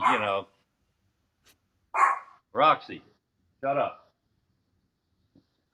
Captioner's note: dogs barking